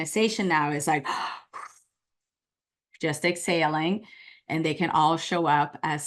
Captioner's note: sighs